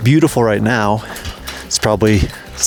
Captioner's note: gate clattering